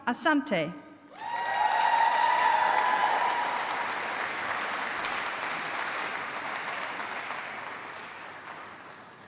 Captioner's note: applause